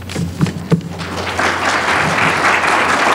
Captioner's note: applause